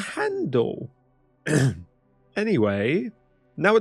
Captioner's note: ahem